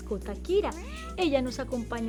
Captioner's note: meow